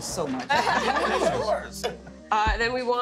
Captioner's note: laughing